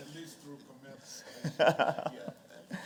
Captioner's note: laughter